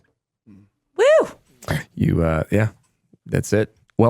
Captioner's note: cheers